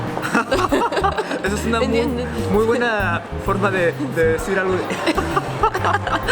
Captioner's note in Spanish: risas